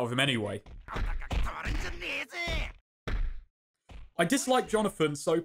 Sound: belittles in Japanese

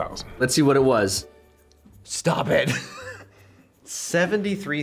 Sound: chuckles

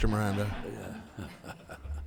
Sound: attendees laughing

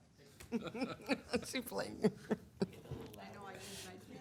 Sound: members laughing

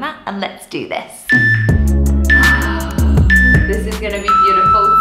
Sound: workout timer beeping

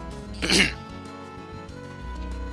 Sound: ahem

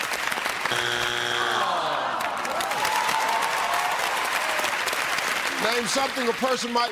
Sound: buzzer

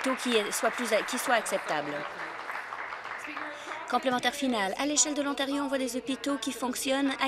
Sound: applause

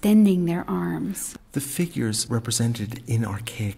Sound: voiceover

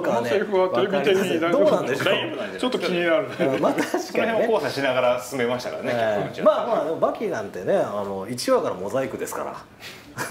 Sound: laughs

